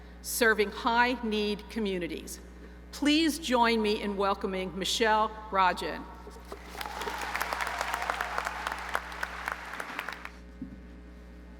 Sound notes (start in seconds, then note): 6.5 audience applauds and cheers